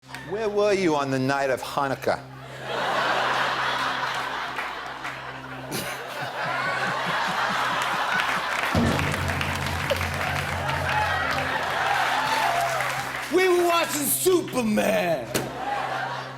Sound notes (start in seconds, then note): 2.5 laughter; 5.7 chuckles